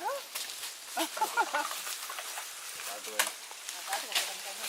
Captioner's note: laugh